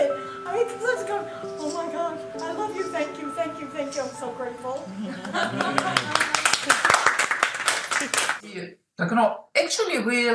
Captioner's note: applause